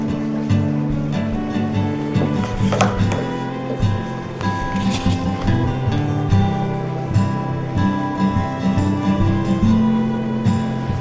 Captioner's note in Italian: Applauso